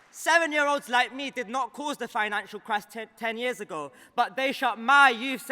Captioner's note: applause